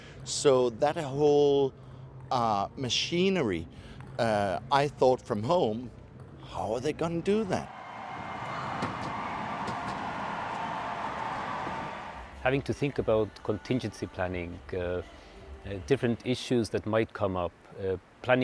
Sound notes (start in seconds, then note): 7.6 crowd cheering